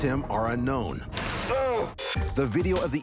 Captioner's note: intruder groans